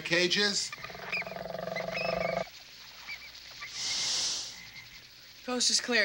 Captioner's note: animals croaking and squeaking